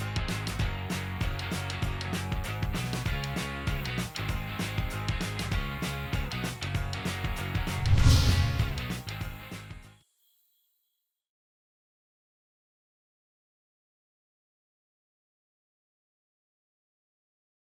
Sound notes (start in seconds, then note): 0.2 upbeat music; 7.6 air whooshing